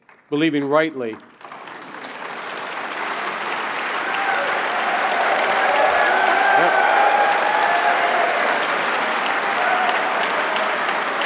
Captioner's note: applause